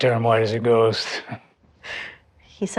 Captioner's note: laughs